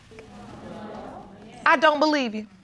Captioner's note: audience murmuring